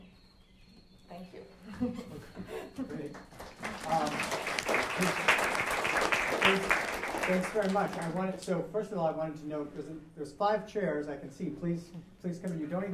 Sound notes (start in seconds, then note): 3.0 applause